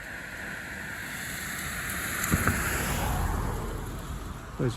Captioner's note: car passing